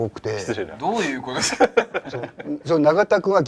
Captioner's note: chuckling